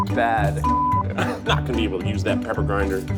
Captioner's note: beep